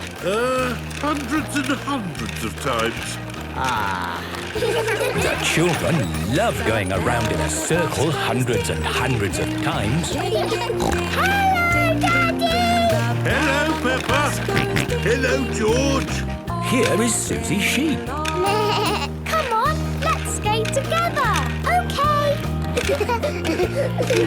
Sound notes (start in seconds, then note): 10.7 snorting; 14.6 George snorting; 18.6 bleating; 22.7 laughter